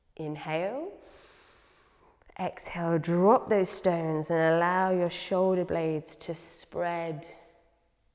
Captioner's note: inhales